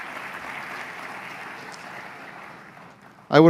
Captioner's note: applause